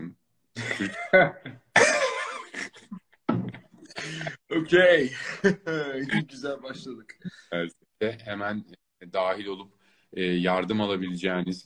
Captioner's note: laughs